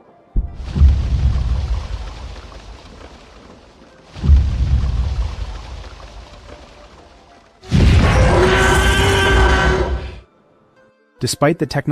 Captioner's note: stomping sounds